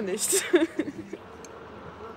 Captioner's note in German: lacht